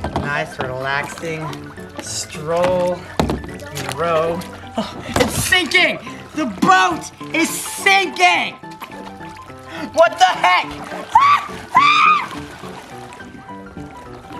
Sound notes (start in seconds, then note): 0.0 boat squeaks; 5.0 gasps; 11.0 screams